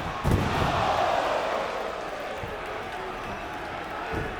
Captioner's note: audience shouting